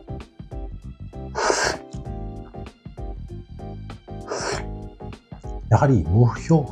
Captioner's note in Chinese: 喝水的聲音